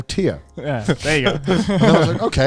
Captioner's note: laughs